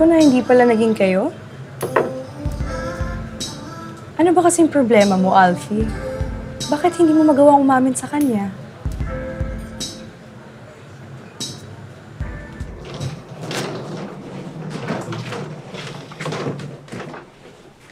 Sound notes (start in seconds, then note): 12.2 luggage rolling